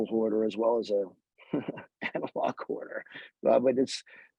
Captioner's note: laughs